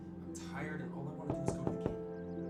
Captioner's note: knocking